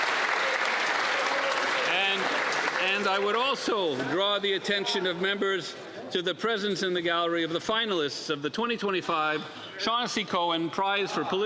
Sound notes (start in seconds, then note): 5.0 applause